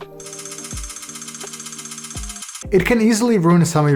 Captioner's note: rapid clicks